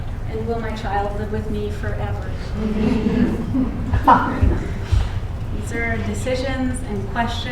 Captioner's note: laughter